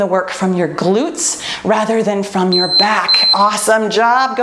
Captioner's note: timer beeps